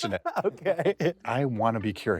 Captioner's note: laughs